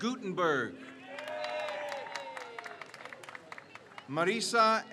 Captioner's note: crowd cheers